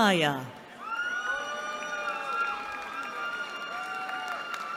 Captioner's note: cheering